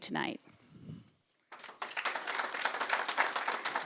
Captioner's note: applause